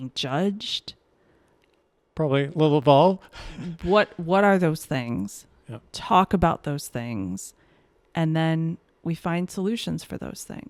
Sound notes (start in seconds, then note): 3.4 chuckles